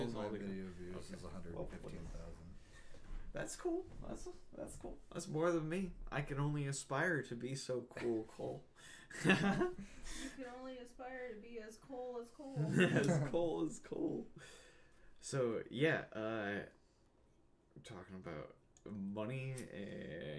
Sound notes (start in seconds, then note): 8.9 laughing